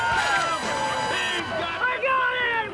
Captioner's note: crowd cheering